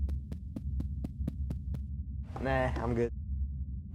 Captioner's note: tapping